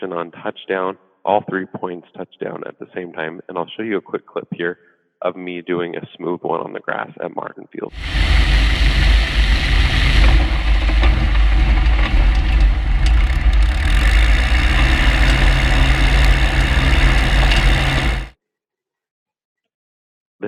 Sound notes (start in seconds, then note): 8.4 plane rumbling